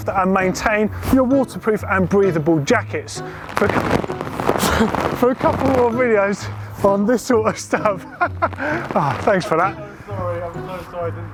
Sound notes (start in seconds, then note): 3.2 water splashing; 7.4 laughing